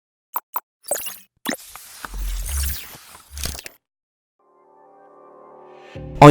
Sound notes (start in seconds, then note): 1.4 electronic buzzing; 4.5 light music